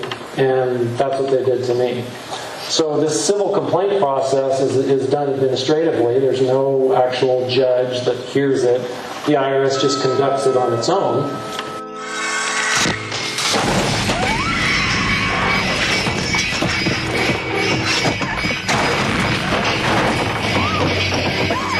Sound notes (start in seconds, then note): 14.0 woman screams; 18.5 front door bursts